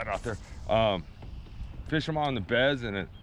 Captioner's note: rod whipping; reel spinning